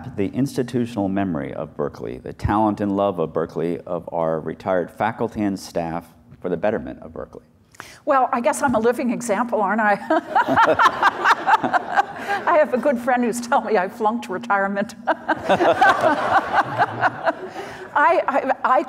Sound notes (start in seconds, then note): 10.2 laughs; 15.1 everyone laughs